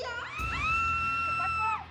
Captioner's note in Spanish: gritos